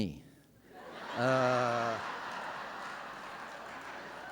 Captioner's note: laughter